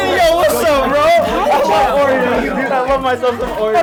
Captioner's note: group chatter